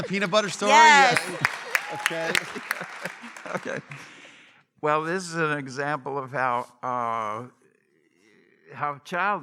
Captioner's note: applause